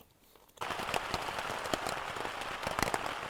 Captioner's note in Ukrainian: оплески